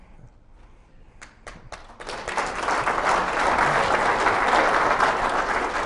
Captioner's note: applause